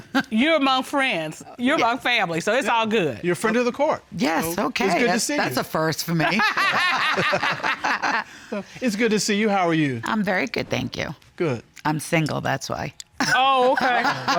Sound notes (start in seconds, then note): 6.4 chuckles; 13.2 chuckles